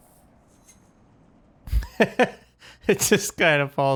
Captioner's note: laughs